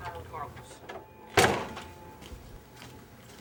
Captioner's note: door opens and clicks closed